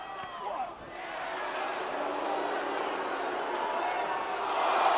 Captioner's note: crowd boos